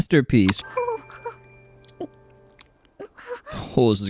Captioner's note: loli kissing noises